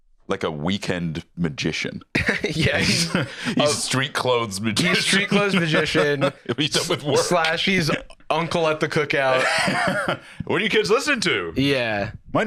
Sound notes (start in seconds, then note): 4.7 laughs